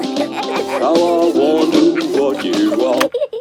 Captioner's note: both giggling